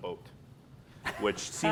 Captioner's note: laughing